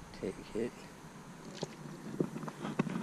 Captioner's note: water splashes